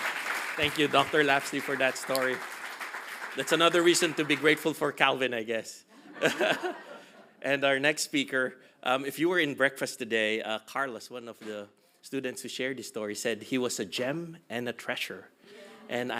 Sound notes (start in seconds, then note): 6.2 laughing